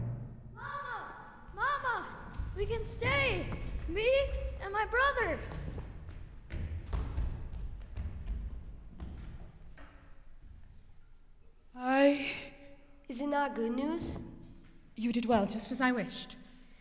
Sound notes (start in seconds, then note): 6.3 running footsteps; 11.7 nervous sigh